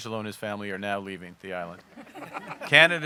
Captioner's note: laughter